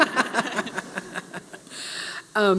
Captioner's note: laughter